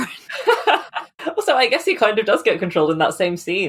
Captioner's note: laughs